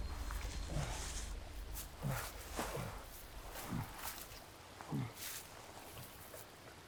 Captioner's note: river flowing; Arawn groaning